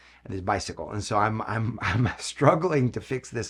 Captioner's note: chuckles